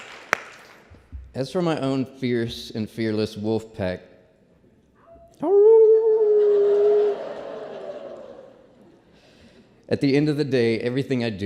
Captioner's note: applause; howls